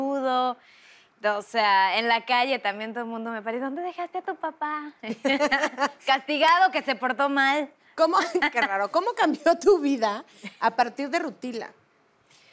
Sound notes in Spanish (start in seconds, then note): 4.2 Ríe